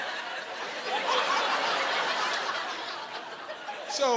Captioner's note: laughing